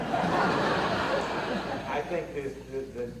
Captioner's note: audience laughter